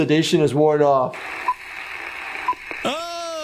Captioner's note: film beeping